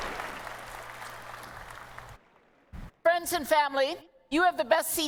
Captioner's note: applause